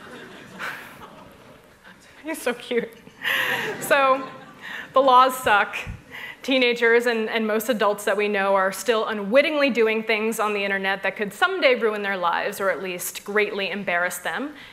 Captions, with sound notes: You're so cute. [laughter] So the laws suck. Teenagers and most adults that we know are still unwittingly doing things on the internet that could someday ruin their lives, or at least greatly embarrass them.